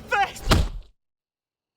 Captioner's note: blow lands